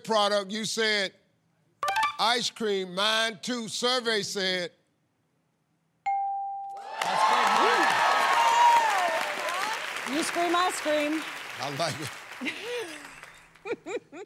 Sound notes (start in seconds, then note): 6.8 cheers and applause; 12.4 laughs